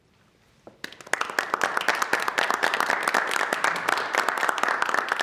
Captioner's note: audience clapping